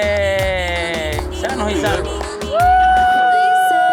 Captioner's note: cheering